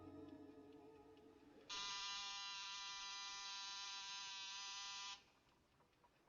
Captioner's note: doorbell Buzzing